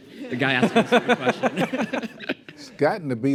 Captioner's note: laughter